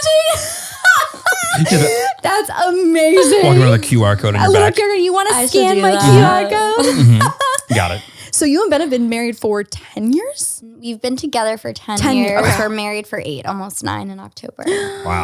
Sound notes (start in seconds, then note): 0.1 laughs; 8.0 laughs